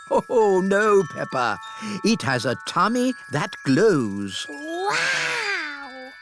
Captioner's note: laughs